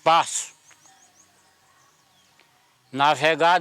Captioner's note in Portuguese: Canto de pássaros